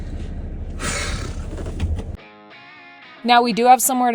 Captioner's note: seat belt clicking; sighing